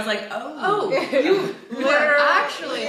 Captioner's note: group laughing